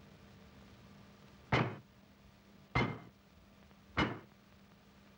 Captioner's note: thud thud thud